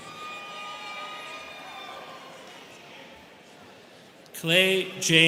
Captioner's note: students cheering